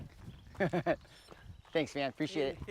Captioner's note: laughs